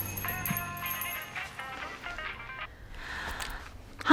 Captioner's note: doorbell jingles, drucinda sighs; cell phone rings; sighs